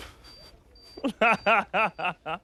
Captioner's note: laughing